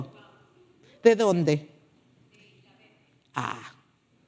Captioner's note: speaking foreign language